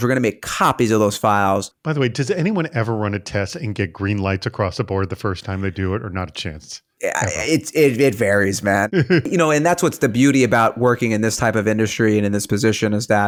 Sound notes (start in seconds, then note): 8.9 presenter giggling